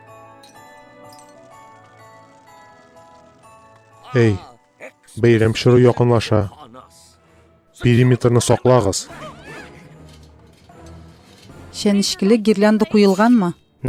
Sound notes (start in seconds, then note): 0.1 ornaments tinkle; 8.3 all yell